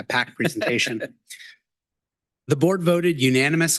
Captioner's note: board member chuckling